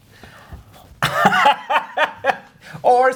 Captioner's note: guy laughing